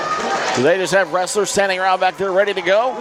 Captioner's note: audience claps